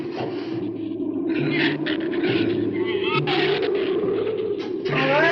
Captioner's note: wind howls; shrews chatter